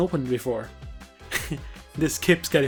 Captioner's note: snicker